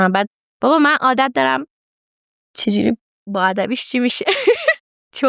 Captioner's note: laughs